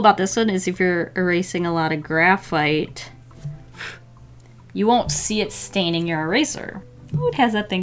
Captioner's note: blows eraser shavings away